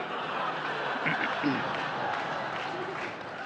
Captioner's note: sniffles and clears throat; laughter